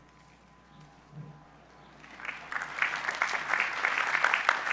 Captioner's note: applause